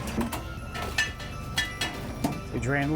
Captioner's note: clanks